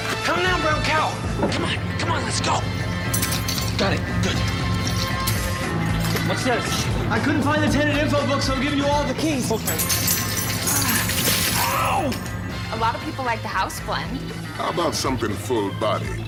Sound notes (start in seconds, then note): 3.6 clank